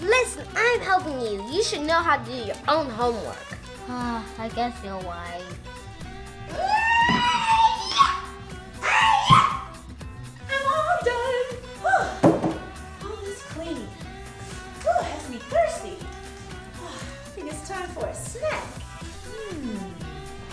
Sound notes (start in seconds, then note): 6.2 shrieks wildly; 11.8 gasps